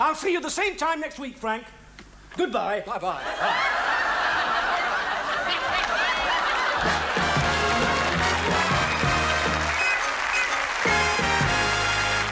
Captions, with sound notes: I'll see you the same time next week, Frank. Goodbye. - Bye-bye. (audience laughs) (jazzy theme music) (audience applauds)